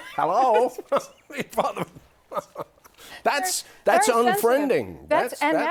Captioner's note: laughter